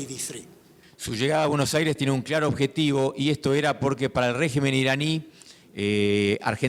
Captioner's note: speaking in foreign language